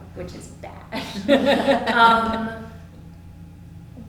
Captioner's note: laughter